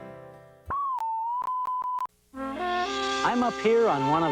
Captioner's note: TV beeps